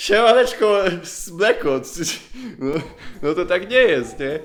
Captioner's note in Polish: śmiech